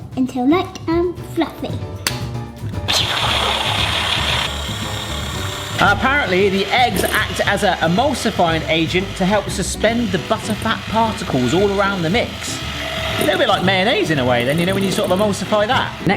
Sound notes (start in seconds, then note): 2.8 egg cracking; 3.0 mellow melodic music; 3.0 whisk whirring